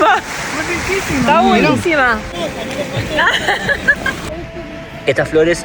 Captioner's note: laughs